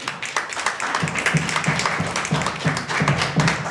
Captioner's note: crowd stomping their feet